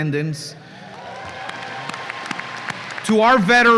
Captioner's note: applause and cheers